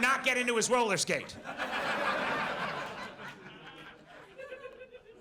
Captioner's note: audience laughs